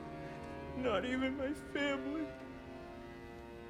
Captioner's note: sobbing